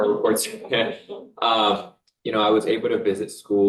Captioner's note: people laughing